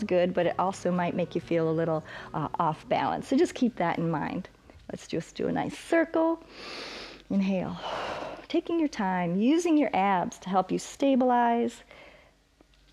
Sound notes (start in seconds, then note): 6.4 exhales; 6.5 inhales